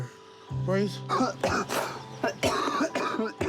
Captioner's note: coughs chestily